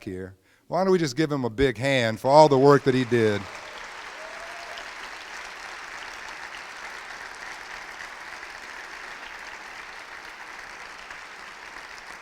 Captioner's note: crowd applauds